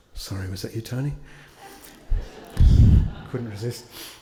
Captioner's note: attendees laugh